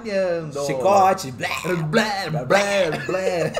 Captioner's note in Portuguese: ambos balbuciam; risadas